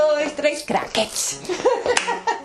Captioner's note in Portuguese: risadas